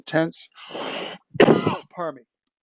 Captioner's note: cough